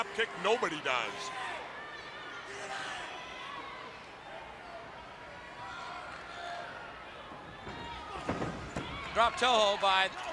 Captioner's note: crowd chatter